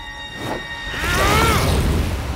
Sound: grunting

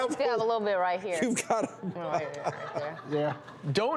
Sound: laughing

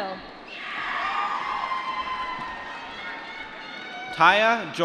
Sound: applause

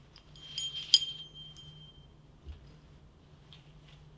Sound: medal dings

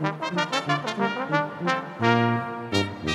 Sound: none

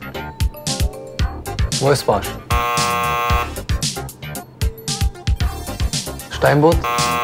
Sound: false buzzer sound; false buzzer sound

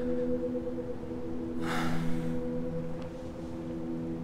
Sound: Shorya exhales

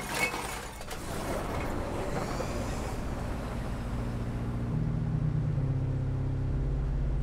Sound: vehicle rumbling; somber minimal music

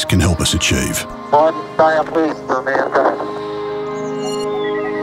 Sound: recorded voice can be heard "One giant leap for mankind"

